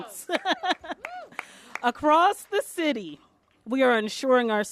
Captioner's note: applause